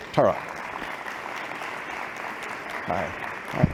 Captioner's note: applause